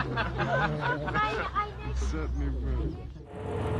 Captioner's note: laughing; speaking softly; voiceover